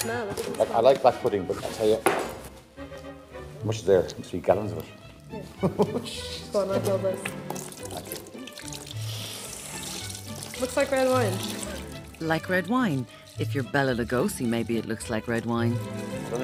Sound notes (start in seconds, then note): 7.4 blood sloshing